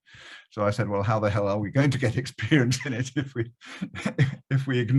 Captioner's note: laughs